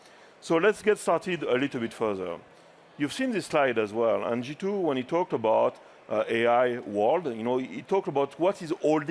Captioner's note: none